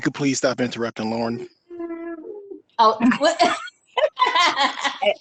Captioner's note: laughs